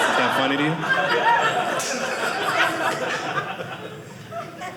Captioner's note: audience laughing